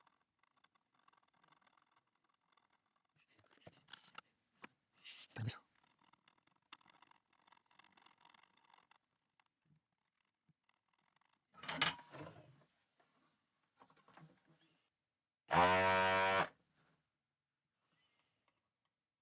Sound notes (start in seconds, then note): 7.8 buzzer Buzzing